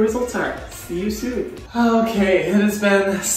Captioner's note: sighs